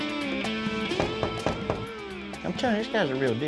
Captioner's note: knocking